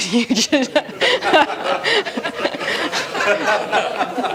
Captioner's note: laughter